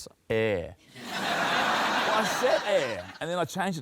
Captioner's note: laughter